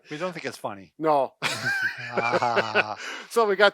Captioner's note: both laughing